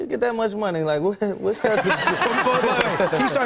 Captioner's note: laughter